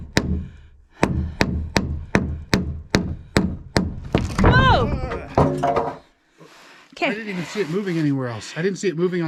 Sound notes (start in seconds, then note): 3.9 board cracking and falling sounds; 5.6 board hitting the ground